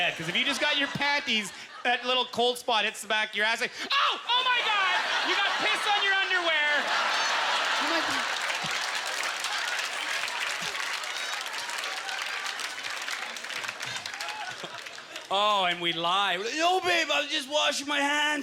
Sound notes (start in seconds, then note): 8.1 audience laughter; 8.5 applause